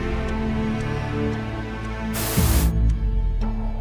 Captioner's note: clock ticking